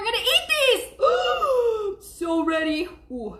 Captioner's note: gasps